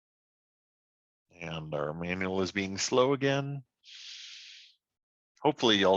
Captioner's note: inhales